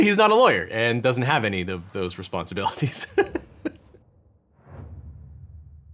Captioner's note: laughs